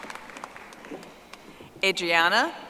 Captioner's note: audience applauding